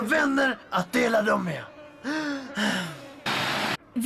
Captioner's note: sighs